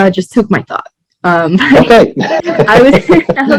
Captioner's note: laughs